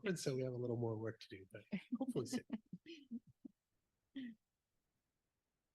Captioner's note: laughs